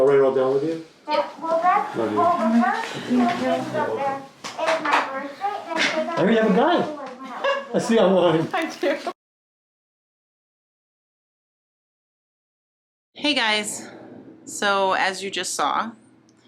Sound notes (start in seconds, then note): 1.2 indistinct background chattering; 10.0 laughing